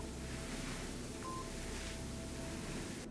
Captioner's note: tone beeps; gentle music continues